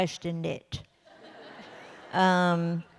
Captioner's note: laughter